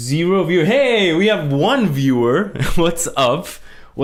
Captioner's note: laughs